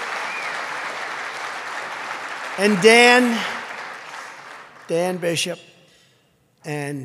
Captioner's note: applause